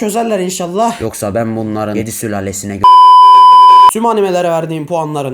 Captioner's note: broadcast disconnects